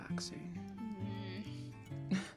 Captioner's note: James makes a noise of protest; Regulus laughs